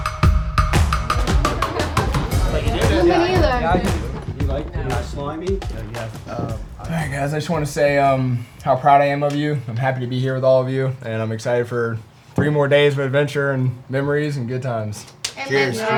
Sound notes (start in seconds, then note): 2.8 everyone chattering